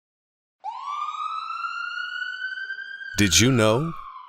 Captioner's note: sound of siren in the distance